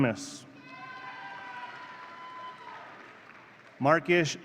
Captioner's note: audience cheering